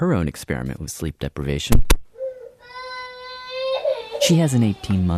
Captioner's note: baby crying